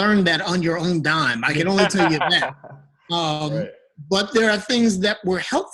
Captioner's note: laughing